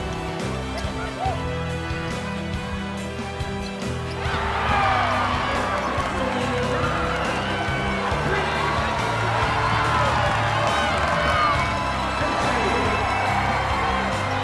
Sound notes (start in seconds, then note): 4.9 cheers and applause